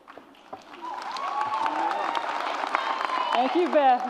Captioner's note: audience applauds